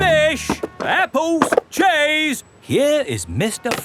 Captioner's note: none